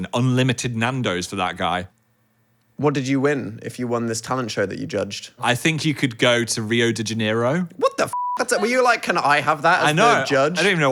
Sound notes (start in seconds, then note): 8.1 beep